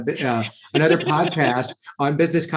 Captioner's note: laughs